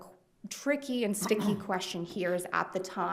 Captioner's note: attendee clears throat